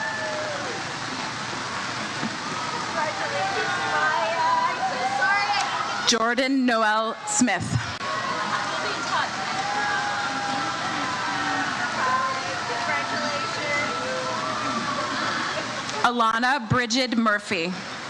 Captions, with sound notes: (crowd cheers) - Congratulations Maya. - Jordan Noel Smith. (crowd cheers) - Congratulations. - Alana Bridget Murphy.